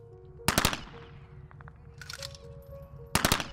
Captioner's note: gun shots